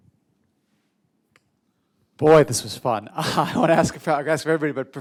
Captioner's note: laughter